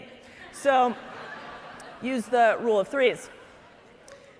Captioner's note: audience laughing